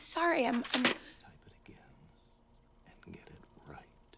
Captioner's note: whispering